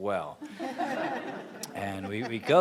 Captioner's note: laughing